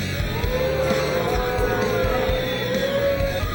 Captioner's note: crowd jeers